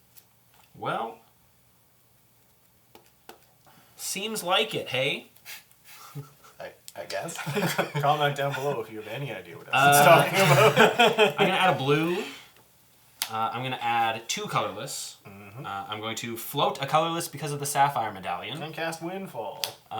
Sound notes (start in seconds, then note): 12.3 all laugh